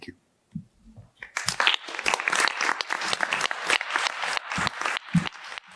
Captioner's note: applause